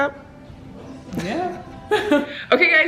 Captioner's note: laughs